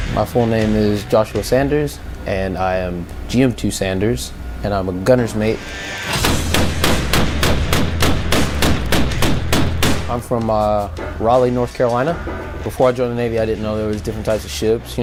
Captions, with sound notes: - My full name is Joshua Sanders, and I am GM2 Sanders, and I'm a gunner's mate. (weapon firing) I'm from Raleigh, North Carolina. Before I joined the Navy, I didn't know there was different types of ships.